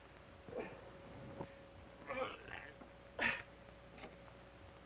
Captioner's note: Sheriff groans